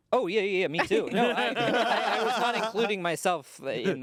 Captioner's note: everyone laughs